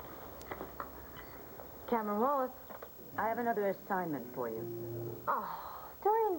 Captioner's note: telephone rings